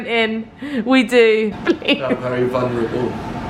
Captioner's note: laughing